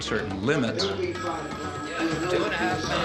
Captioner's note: telephone ringing